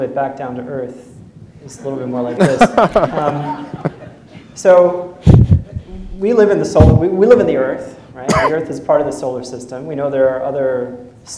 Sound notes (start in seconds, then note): 2.3 laughter